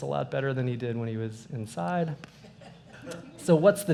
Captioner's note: laughter